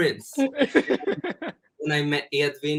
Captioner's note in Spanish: Edvin se ríe